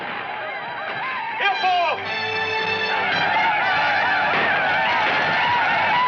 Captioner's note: Indian speaking in foreign language